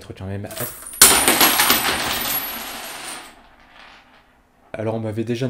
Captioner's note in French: Bruit de monnaies qui tombent